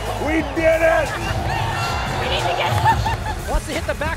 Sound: crowd cheering

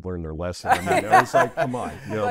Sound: laughs

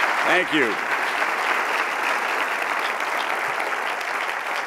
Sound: crowd applauding

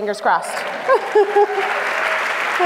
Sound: applause; laughs

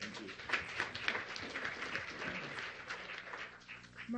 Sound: applause

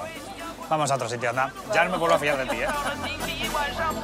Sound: laughs

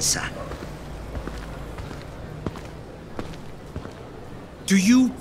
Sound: footsteps

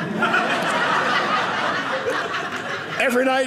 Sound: audience laughing

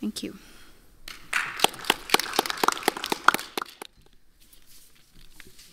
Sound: audience applauds

